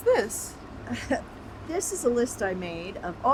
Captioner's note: Ramona chuckles